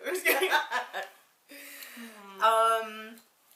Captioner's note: both laughs